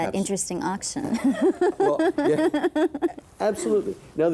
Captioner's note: laughing